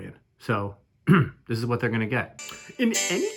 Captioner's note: clearing throat